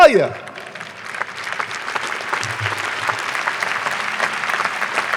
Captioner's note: audience applauding